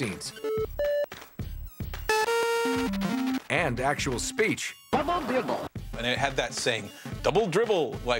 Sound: arcade sounds

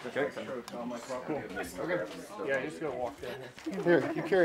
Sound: customers chattering

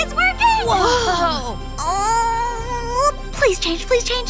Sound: mermaids exclaiming

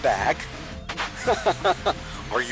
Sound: laughter

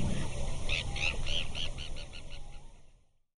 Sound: bird tweeting

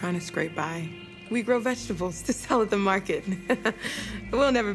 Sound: laugh

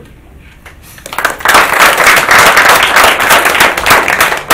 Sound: applauding

